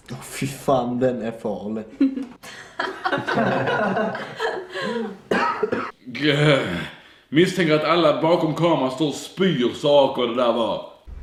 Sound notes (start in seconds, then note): 2.0 giggle; 3.2 random awkward giggles; 3.2 unscripted cough